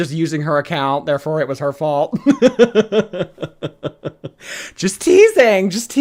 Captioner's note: laughs